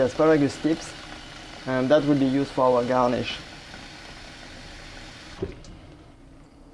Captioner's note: running water